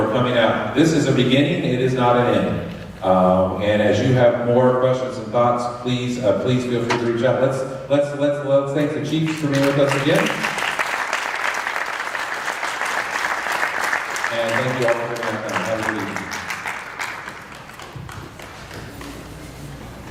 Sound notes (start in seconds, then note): 13.7 applause